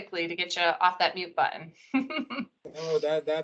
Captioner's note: chuckles